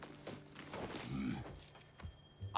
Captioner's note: grunt